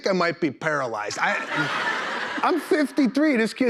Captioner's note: laughter